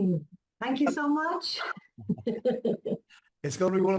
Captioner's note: laughs